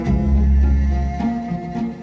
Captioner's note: none